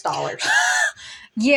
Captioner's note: forceful Exhale